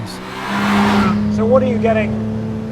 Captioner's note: engine revving